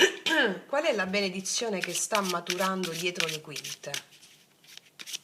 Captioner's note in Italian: schiarire la voce